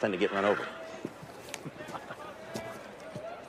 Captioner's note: laughs